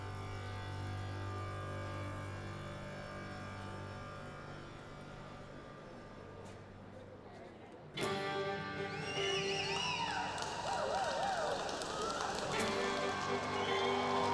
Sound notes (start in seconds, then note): 8.3 whistling from crowd; 11.1 cheers and applause; 14.1 upbeat country music